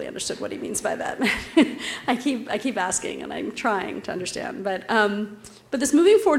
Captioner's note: laugh